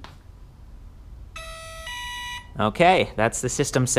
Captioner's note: electronic tones chime